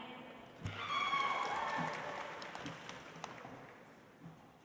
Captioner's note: audience applauds